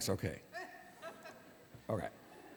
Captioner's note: laughter